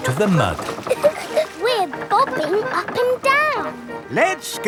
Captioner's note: chuckles